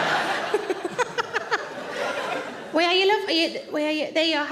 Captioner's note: audience laughs; Sarah laughs